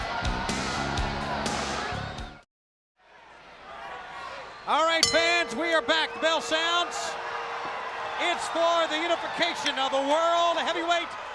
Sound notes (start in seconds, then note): 0.2 crowd cheering; 0.2 crowd whistling; 5.0 bell chiming